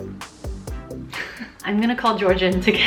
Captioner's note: laughing